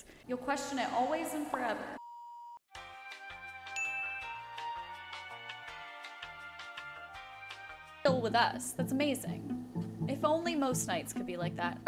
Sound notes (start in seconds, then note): 2.0 beep; 3.7 chime; 9.3 mid tempo music